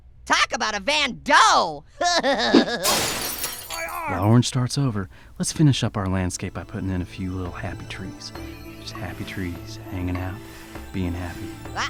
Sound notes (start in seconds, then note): 2.0 laughing; 2.8 glass breaking; 3.3 voiceover